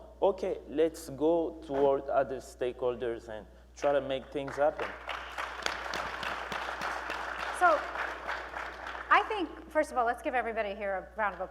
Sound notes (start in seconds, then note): 4.2 applause; 10.6 applause